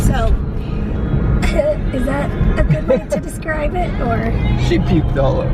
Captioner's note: laughs